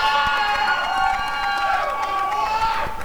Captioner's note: applause and cheering